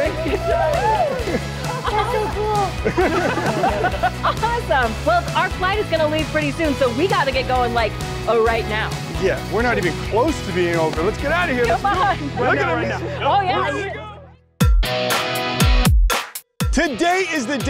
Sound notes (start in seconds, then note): 0.0 cheering; 1.1 laughs; 11.5 overlapping chatter; 14.6 upbeat rock music